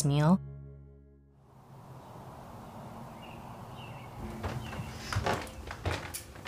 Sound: birds chirping and distant traffic; footsteps

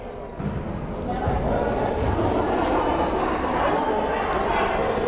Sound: crowd chattering

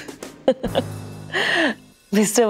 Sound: laughs

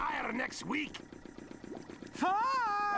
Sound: engine running

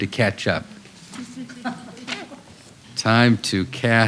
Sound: laughter

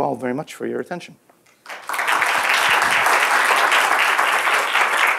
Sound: applause

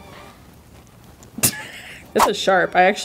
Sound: laughing

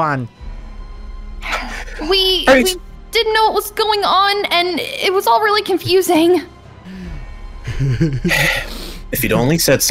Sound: sigh

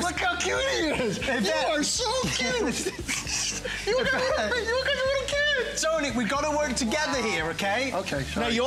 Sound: laughter

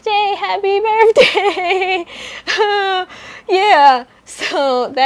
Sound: nervous laughter

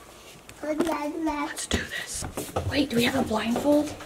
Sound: whispers

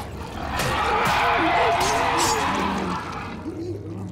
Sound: roaring

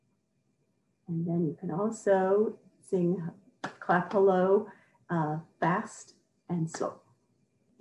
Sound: clapping quietly

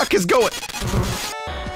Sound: glitchy sound is coming

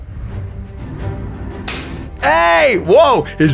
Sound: hands clap

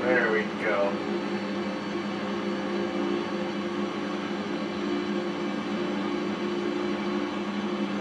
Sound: engine hums

